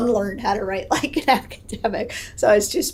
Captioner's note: laughs